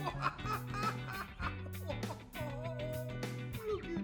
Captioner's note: laughing